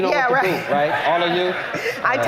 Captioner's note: laughter